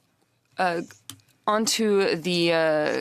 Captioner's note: speaking French